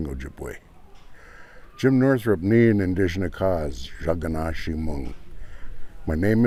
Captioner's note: speaking ojibwe